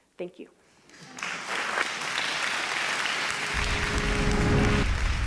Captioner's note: audience applause